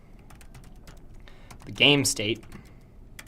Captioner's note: typing Noises